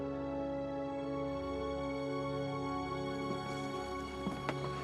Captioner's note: none